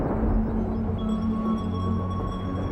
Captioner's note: thunder